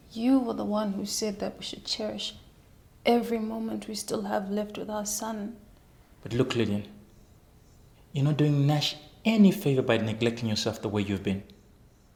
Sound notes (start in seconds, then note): none